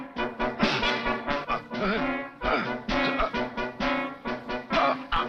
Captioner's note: grunts